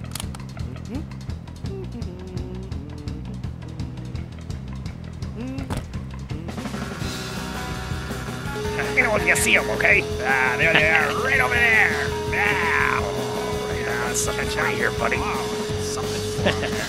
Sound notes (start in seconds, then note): 2.2 happy humming